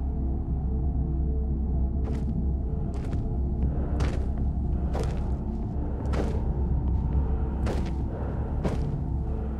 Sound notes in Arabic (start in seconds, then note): 3.9 خطوات تقترب